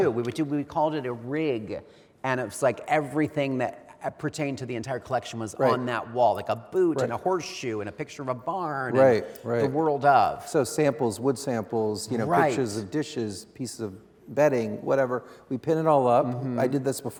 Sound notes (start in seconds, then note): none